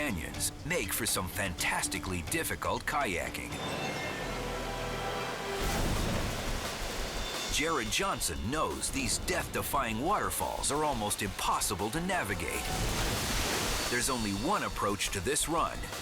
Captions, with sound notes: make for some fantastically difficult kayaking. (waterfall rushing) Jared Johnson knows these death-defying waterfalls are almost impossible to navigate. There's only one approach to this run.